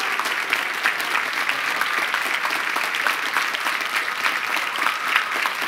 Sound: applause

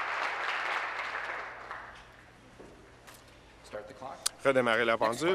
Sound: applause; continued applause

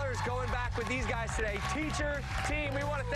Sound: cheers and applause

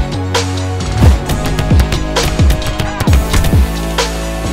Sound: punches thudding

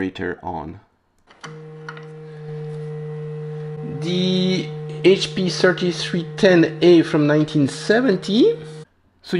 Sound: unstable tones

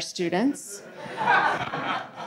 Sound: audience laughing

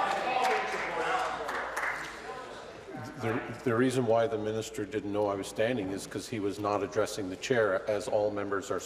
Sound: voice trailing

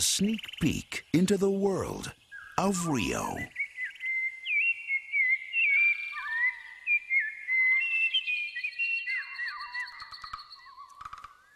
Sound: birds chirping

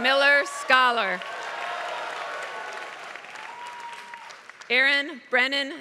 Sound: applause

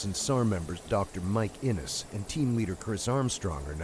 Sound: voiceover

